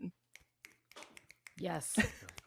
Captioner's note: snapping fingers